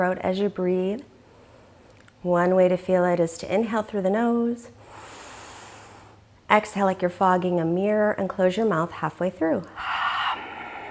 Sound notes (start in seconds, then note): 4.8 inhaling deeply